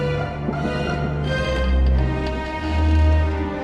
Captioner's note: floorboards creaking